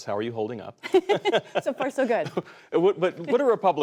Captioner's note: laughter